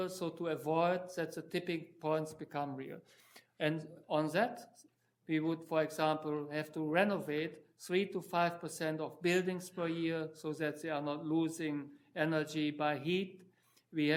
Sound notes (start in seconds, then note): none